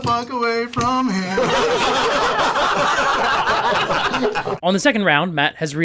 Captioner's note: laughter